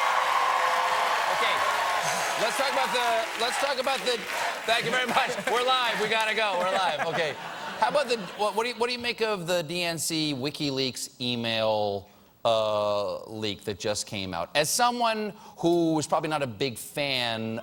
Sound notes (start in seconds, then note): 3.2 audience chanting stephen; 3.2 cheers and applause